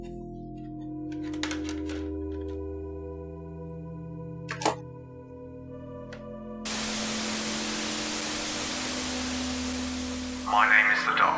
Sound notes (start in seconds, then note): 4.1 static sounds; 4.1 turning switches